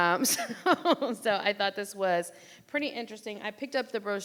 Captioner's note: laughs